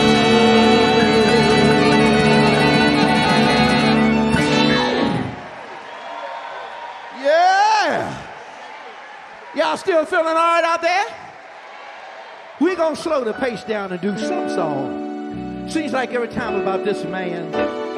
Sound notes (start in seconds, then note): 5.8 audience cheer and clap